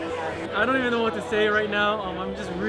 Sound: chatter

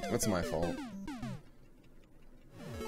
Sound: death audio

